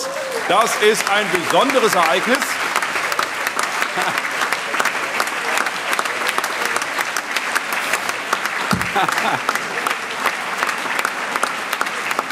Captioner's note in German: Lebhafter allgemeiner Beifall